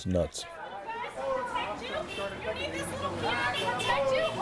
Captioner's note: indistinct shouting